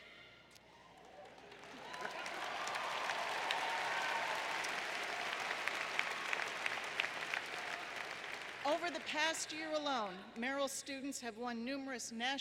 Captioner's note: applause